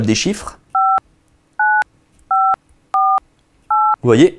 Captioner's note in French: sons de touches de téléphone